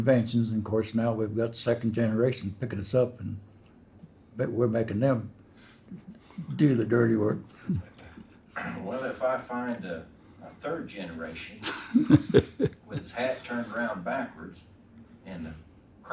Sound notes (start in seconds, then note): 7.5 chuckle